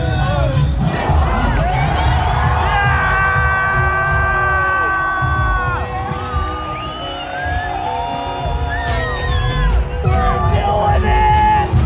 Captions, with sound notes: (people clamoring) - They're doing it.